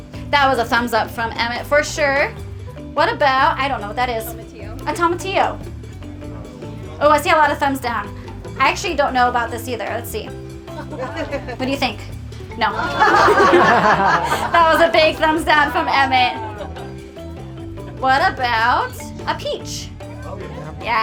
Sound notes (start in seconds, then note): 12.7 laughter